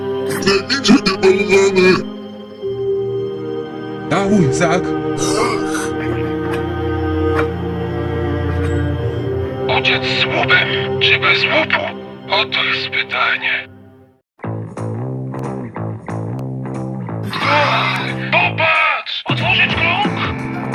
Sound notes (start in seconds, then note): 4.9 growl